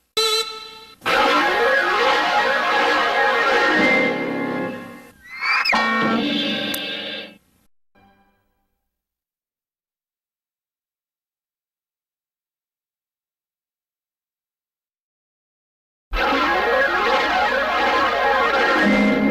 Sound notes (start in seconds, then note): 5.2 cartoon sounds; 9.1 silence; 16.0 analog synthesizer swirling sounds